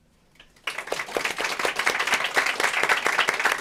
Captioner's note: applause